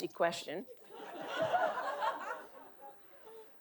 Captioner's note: audience laughing